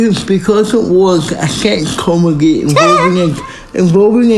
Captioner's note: laughing